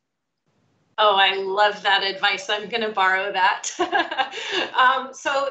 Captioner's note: laughs